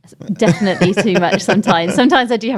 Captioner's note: laughs